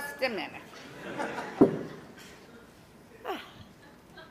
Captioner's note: audience laughter